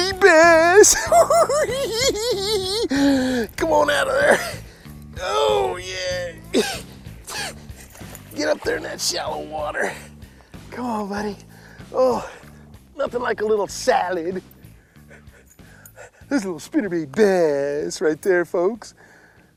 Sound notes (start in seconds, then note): 0.6 hooting and giggling; 6.4 grunting